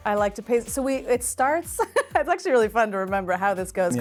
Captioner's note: laughing